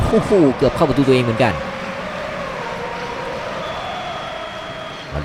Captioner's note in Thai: ปรบมือ